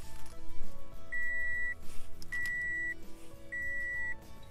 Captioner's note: ignition beeping